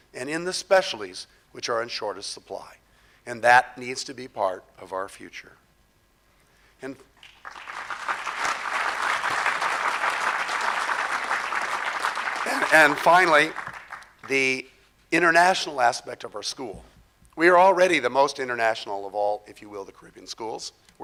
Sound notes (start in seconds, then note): 7.2 crowd applause